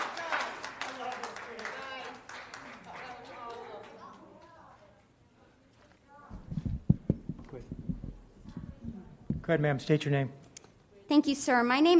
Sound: applause

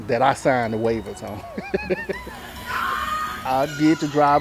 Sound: laughs

